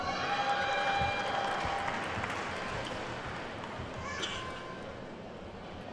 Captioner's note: attendees whooping and clapping